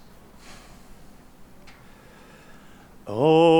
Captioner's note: inhales; exhales